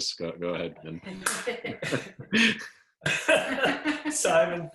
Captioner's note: both laughing